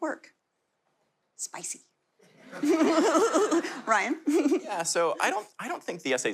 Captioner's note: laughter